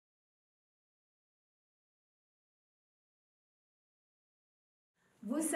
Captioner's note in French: silence